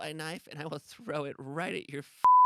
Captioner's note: beep